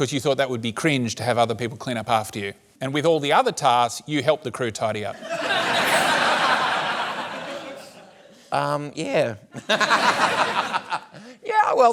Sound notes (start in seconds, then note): 5.2 laughter; 9.6 laughs